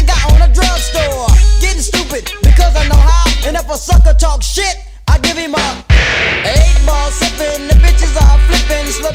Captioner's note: pow